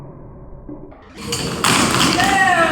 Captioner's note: crash